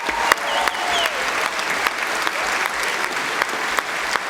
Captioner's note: applause